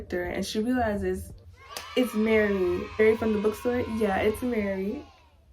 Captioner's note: children cheer